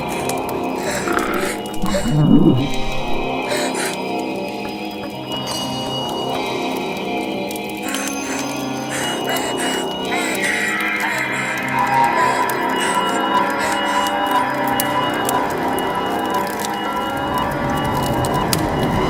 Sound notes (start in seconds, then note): 0.7 demon snarls; 9.3 Elizabeth crying; 17.1 fire crackling louder